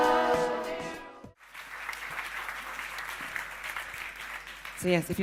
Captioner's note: applause